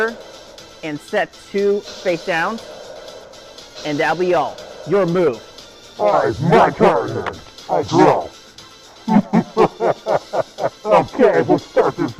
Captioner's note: laughter